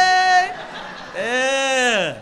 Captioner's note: crowd laughs; laughs